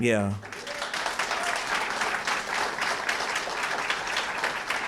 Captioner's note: applause